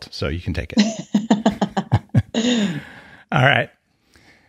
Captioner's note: laughing